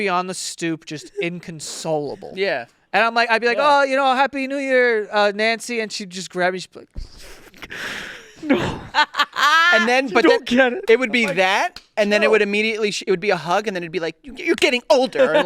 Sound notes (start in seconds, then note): 7.3 sobs; 8.3 laughing